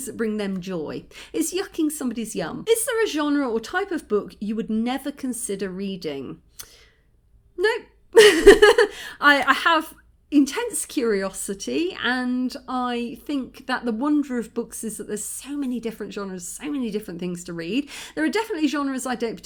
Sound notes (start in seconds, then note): 8.2 laughing